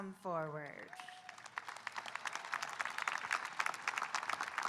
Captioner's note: audience applauding